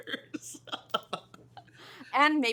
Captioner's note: laughs